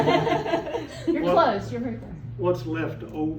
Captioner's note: laughter